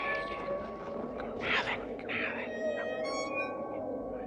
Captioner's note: weasels whisper